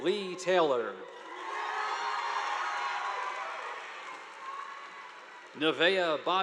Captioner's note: students cheering; audience applauding